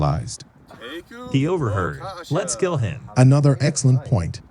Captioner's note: also speaking foreign language; speaking foreign language